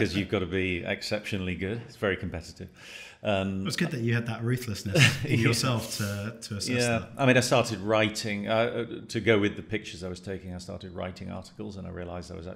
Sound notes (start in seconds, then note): 4.8 chuckling